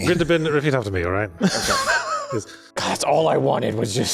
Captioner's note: chuckles